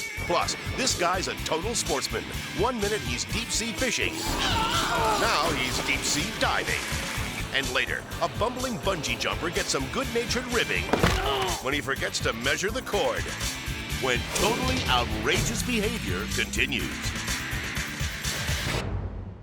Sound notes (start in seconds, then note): 4.4 fisherman yelling; 10.8 body thudding; 16.7 rock music